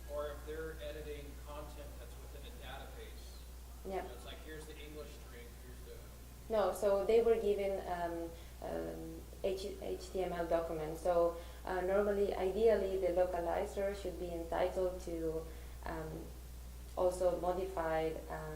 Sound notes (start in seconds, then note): 4.8 voiceover